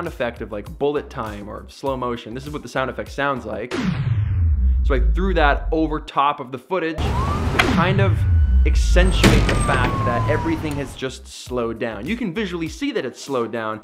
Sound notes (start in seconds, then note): 3.7 bullet flying through air in slow motion; 7.0 sirens with slow motion bullet flying through air